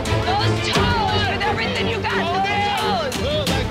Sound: on-lookers yelling

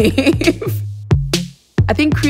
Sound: laughter

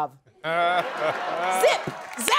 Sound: laughing

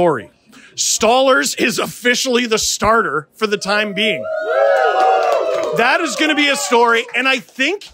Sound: cheering

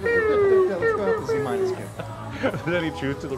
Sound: Jason murmuring

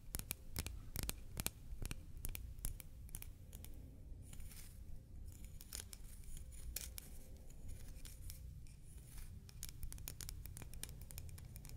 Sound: shell tracing, tapping scratching

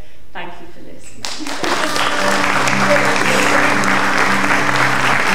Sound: audience applauding

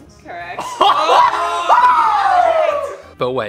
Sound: laughs; screams

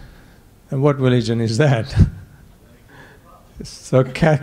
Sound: snickering

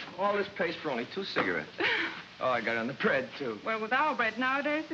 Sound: none

